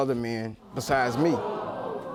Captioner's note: audience gasping